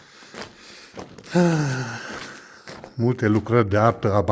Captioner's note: sigh